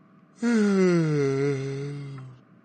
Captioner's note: yawns